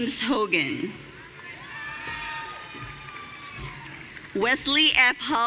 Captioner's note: audience cheering